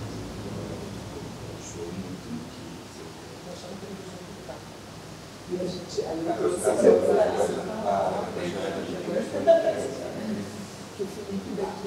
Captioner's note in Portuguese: vozerio ao fundo